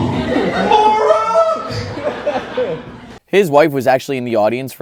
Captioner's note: audience laughing